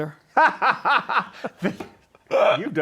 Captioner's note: laughs